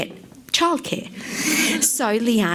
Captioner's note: laughs